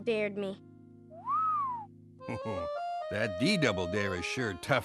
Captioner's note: whistling